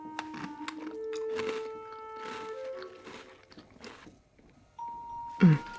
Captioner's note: cookie crunching